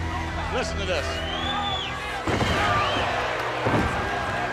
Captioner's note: crowd cheering